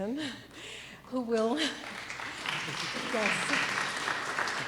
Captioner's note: clapping